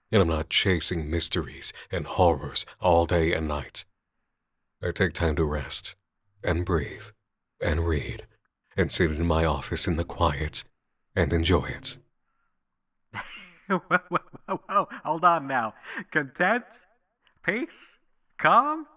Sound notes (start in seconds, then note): 13.1 laughing